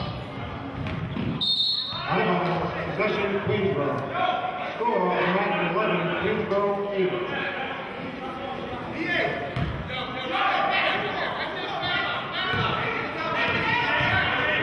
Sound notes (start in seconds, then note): 1.4 whistling; 11.1 yelling